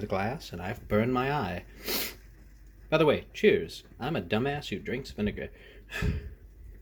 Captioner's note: sniffle